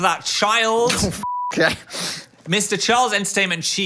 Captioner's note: beep